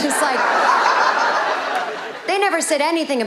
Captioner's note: audience laughing